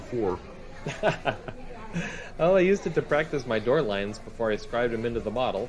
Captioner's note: laughs